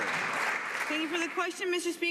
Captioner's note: some Applause